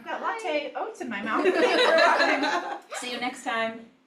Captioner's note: laughter